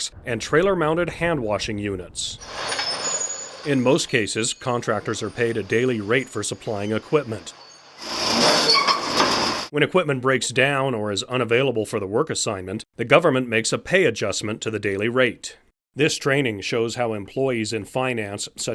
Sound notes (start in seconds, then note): 8.5 gears squeaking